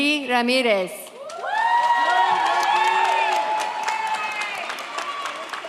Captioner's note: audience cheers